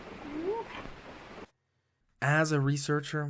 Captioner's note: owls calling; white noise crackling; voice whoops